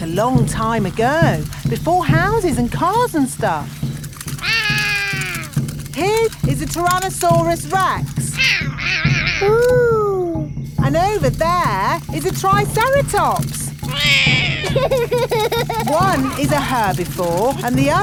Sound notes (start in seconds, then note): 4.4 roaring; 8.4 roaring; 13.8 laughs; 13.9 roars